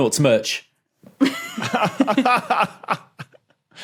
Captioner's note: giggles; laughs